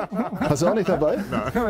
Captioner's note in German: lacht